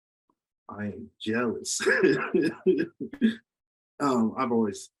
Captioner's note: laughs